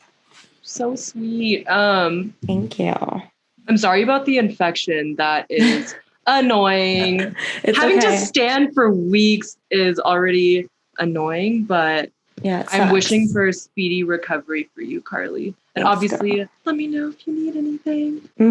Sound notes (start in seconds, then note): 6.5 laughs